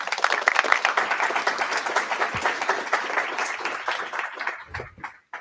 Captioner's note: applause